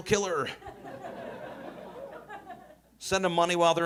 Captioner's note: audience laughing